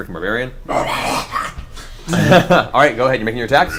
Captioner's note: snarls